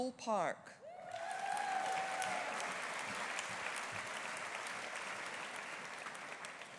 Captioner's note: audience cheering; audience applauding